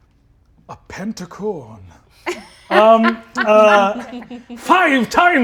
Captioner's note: laughs